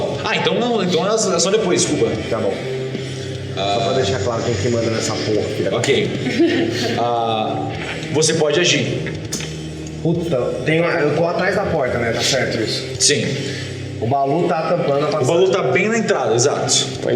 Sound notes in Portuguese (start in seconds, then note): 6.1 risos